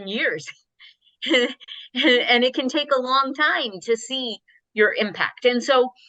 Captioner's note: chuckling